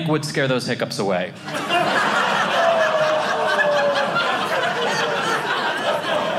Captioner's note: audience laughing